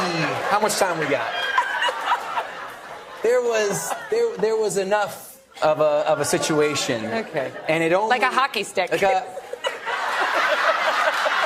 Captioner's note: laughter and applause